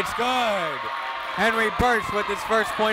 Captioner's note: crowd cheers